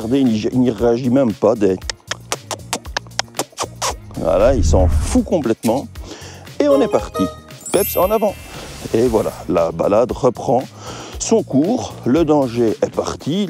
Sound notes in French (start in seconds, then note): 2.0 bruits de la bouche